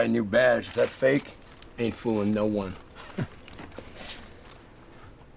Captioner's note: chuckles